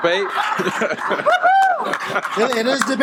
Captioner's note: audience laughing